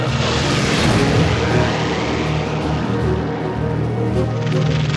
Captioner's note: aircraft engine roars; dramatic music